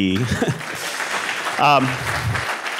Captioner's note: applause